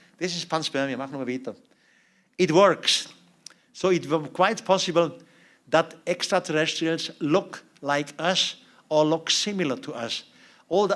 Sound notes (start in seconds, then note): 1.0 non-english speech